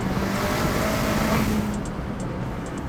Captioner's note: engine revving